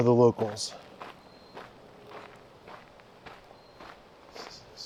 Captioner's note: wind